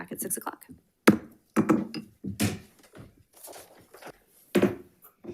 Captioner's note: gavel bangs; gavel bangs